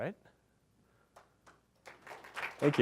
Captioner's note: applause